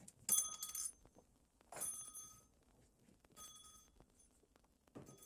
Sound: door bell jingling

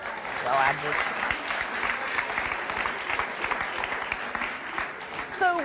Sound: audience applause

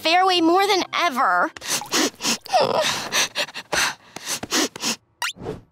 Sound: sniffling, crying; gasping

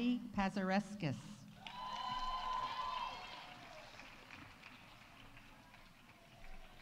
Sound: audience applauding; audience cheering

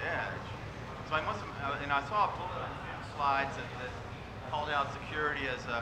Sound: speaking faintly

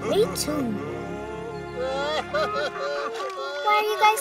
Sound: crying

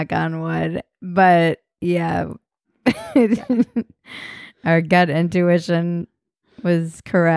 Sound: laughing

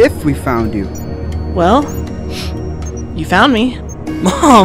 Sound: sniffs

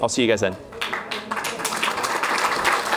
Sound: applause

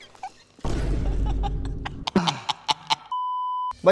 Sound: increasingly cackles

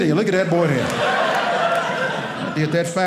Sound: audience laughing

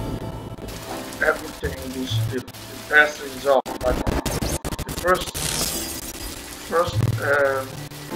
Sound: glass breaking

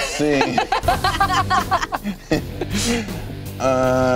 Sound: laughing

